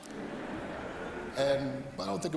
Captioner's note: laughter